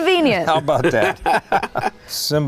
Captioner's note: laughing